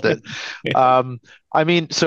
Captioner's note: laughs